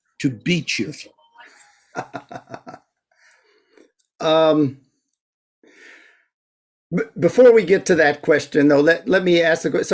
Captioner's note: chuckles